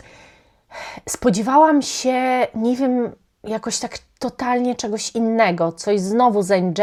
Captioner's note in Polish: westchnienie